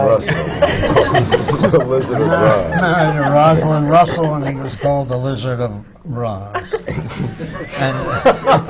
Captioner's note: laughter